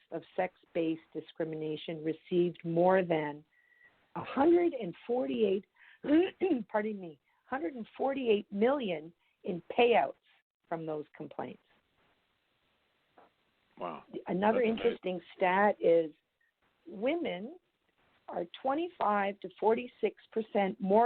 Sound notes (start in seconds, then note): 6.1 clears throat